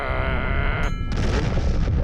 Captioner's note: growls; deep rumble and explosion